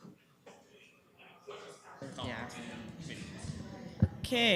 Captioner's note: chatter